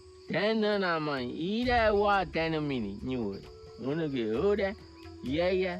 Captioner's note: speaking in foreign language